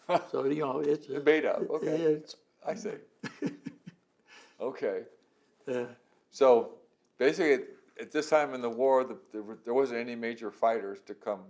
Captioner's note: laughter